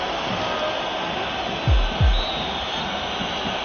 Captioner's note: whistle blows